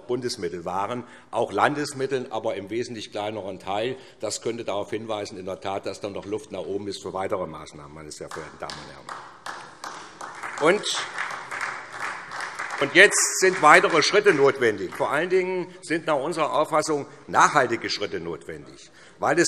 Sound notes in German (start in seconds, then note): 8.2 Beifall SPD